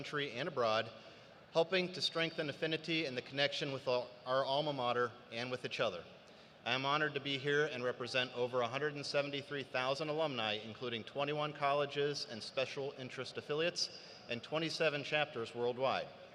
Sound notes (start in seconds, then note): none